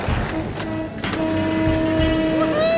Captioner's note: horn beeping